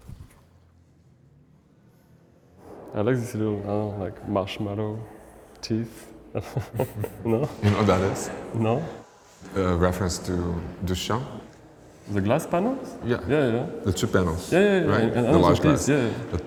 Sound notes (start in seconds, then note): 6.3 laughs